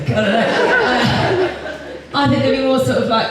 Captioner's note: audience Laughs